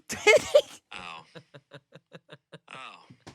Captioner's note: laugh